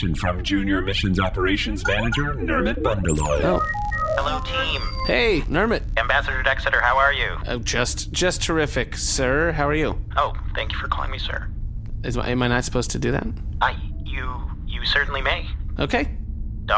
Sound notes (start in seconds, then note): 1.8 transmission connects